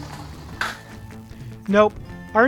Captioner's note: lander thuds